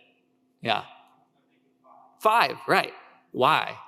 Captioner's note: speaker speaks faintly